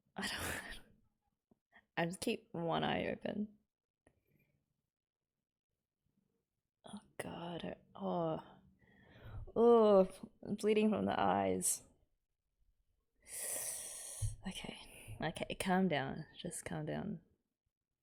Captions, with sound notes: I don't wanna - I'll just keep one eye open. Oh god... oh! Ugh, bleeding from the eyes... [sharp intake of breath] Okay. Okay. Calm down, just calm down.